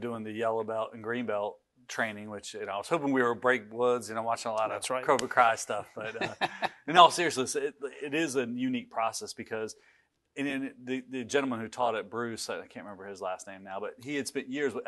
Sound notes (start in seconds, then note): 6.0 laughs loudly